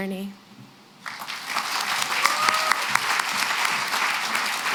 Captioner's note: applause